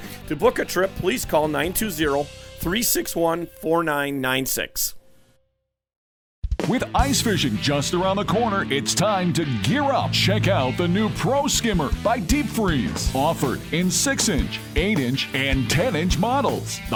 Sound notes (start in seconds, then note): 6.4 rock music; 7.8 voiceover